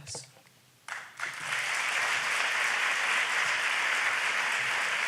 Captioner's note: audience applauds